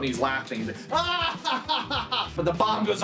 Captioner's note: laughing